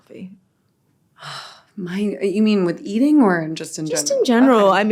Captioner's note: sighs